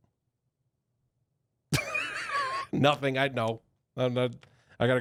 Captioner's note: chuckling